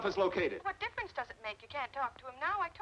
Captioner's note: on phone